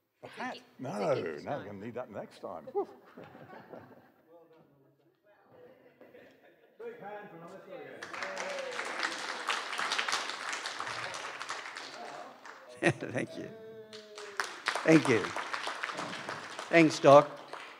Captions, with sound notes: The hat? No, i'll need that for next time. Big hand for Melissa again. [Laughter and applause] Thank you, thank you. Thanks Doc.